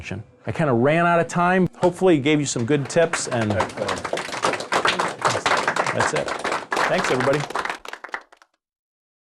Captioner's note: clapping